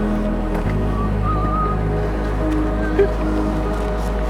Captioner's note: whistling